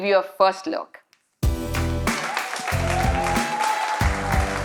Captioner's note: audience cheering; applause